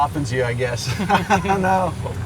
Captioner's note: laughs